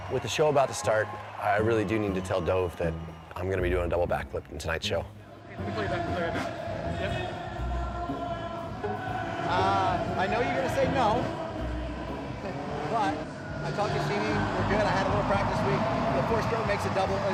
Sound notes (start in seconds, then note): 5.1 pensive music; 8.1 voice over loudspeaker